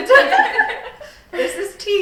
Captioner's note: all laughing